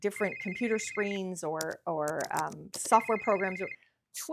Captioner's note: keys clicking